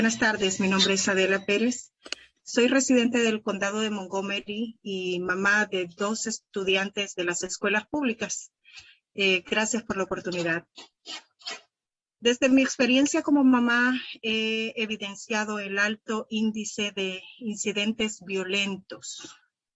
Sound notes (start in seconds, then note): 6.9 spanish